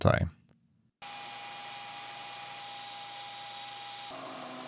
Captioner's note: tool humming